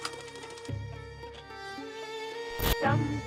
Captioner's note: projector clattering; gentle pensive music; radio stations changing